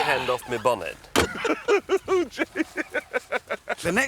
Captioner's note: laughing continues